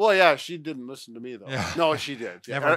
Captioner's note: laughs